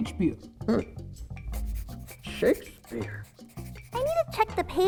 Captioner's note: pencil scratches on paper